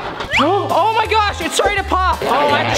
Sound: gasps

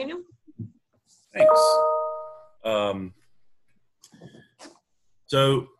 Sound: ping sound

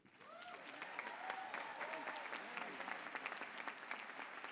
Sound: applause

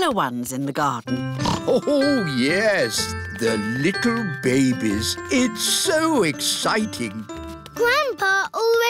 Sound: snorts

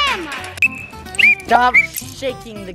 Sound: whistle blows

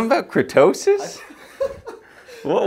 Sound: background laughter

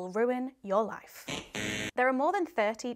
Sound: buzzer buzzing

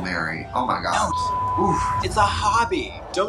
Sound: beep

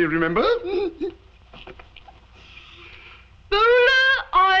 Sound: father chuckling

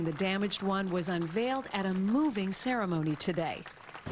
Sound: applause

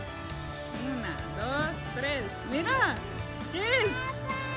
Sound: speaking Spanish

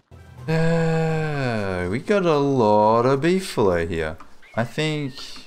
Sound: exasperated sigh

